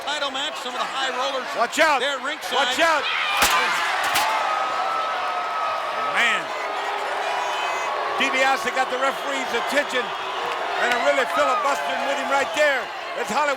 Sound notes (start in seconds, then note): 4.0 chair slams